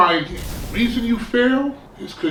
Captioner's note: crashing noise